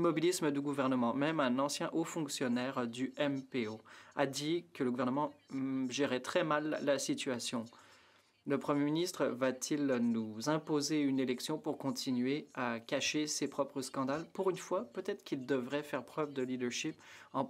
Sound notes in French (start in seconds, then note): 9.7 voix de l'interprète